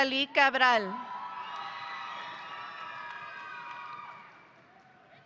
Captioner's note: audience applauding